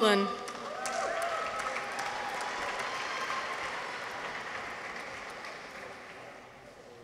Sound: audience applauds; people cheer

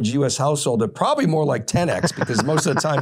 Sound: laughing

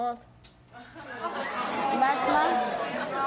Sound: audience groaning

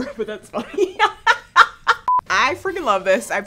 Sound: laughs

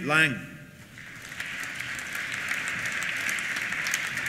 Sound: applause

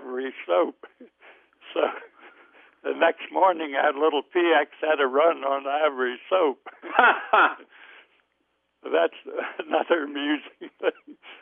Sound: both laugh

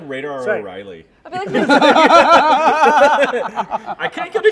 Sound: laughter

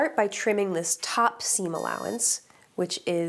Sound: iron beeping

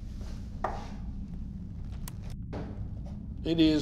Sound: detective footsteps approach; presses play on recorder

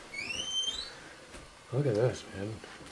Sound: door creaking shut

